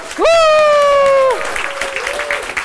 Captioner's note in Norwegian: Applaus